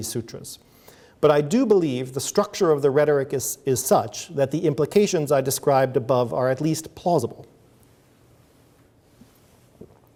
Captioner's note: sips water